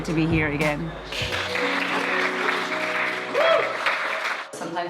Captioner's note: applause